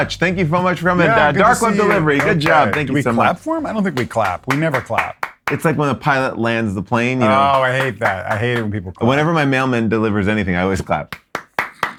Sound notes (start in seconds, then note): 1.6 claps; 3.8 clapping; 7.2 clapping; 11.0 clapping; 11.8 chortles